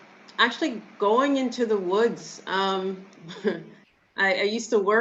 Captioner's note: giggles